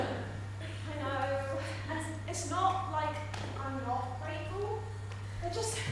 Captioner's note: audience laughs